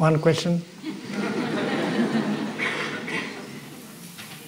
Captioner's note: laughter